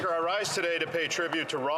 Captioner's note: some Applause